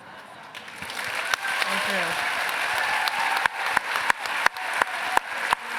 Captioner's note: applause